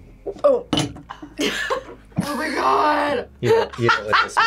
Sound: coughs

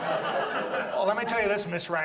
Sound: audience laughs

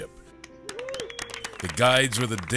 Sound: anglers cheering

